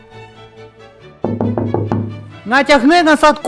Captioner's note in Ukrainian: стукає по вікну